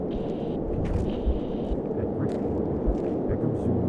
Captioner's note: radio static